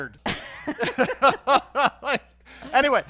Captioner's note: laughing